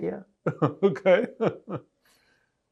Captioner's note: laughing